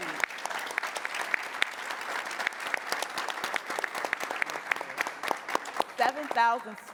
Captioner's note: applause